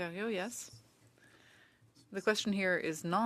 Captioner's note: speaking French